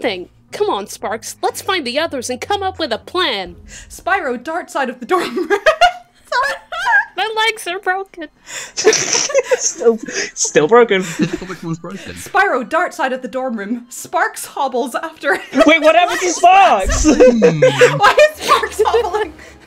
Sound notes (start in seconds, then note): 5.3 breaks into laughter; 8.8 laughter